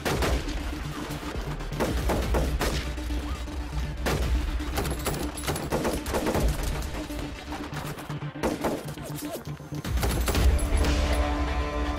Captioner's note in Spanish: Tiroteo